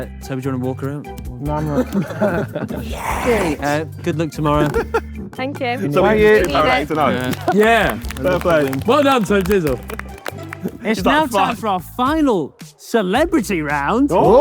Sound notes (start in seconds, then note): 5.8 group applauds